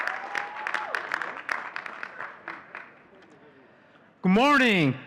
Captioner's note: audience cheering and clapping